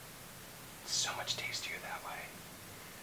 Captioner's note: whispers